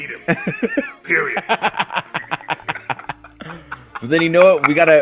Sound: laugh

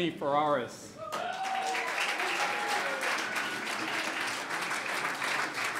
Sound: clapping

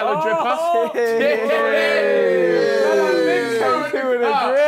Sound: group chattering

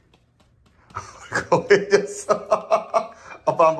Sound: laughing

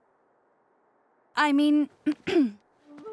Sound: clearing throat

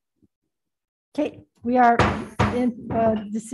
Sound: gavel pounding

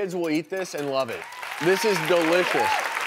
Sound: applauding

